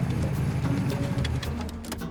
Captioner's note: engine cuts off